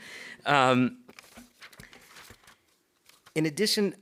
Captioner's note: paper rustles